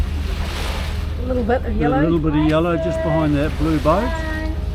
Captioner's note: waves lapping